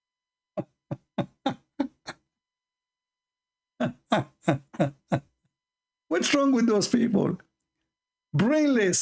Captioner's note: Ketawa